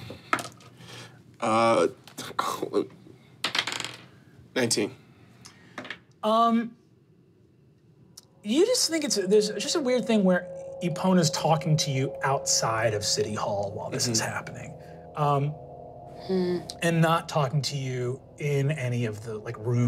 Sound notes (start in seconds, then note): 3.4 dice rolling